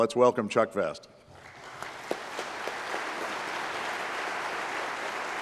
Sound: applause

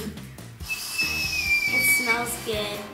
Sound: whistling

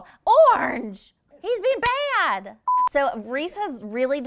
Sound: beep

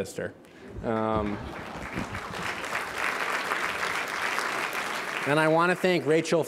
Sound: applause

